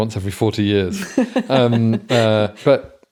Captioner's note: laughing